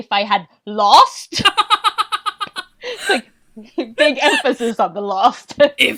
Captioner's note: laughs